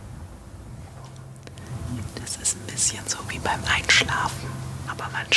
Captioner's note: whispered